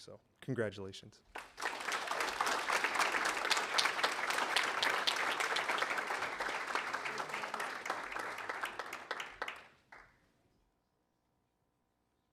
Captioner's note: applause